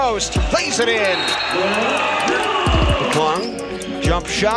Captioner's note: referee whistles